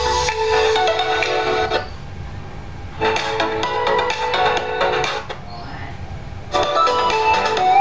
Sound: clap

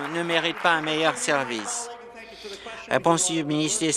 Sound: applause

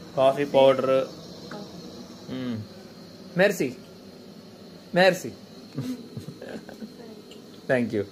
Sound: speaking in foreign language

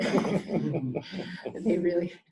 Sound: laughter

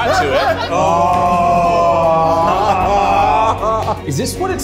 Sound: all groaning; all laughing

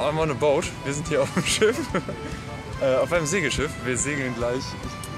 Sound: laughs

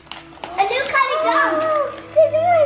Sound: gasps

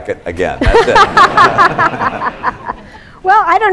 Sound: laughter

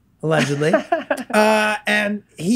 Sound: laughs

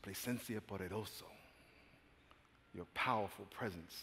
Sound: speaking spanish

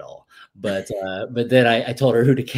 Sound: laughs

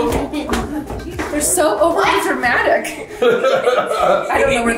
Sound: laughs

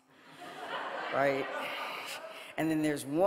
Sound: audience laughing

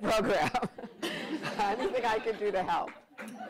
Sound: laughter

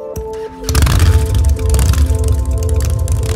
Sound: motorcycle engine revs

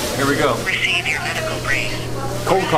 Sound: recorded Phone Voice

